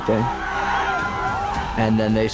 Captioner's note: crowd cheers